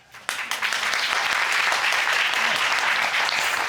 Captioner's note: crowd clapping